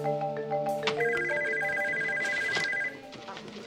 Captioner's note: phone rings